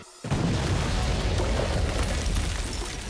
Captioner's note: explosion